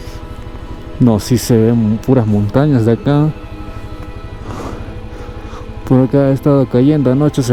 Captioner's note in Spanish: resoplido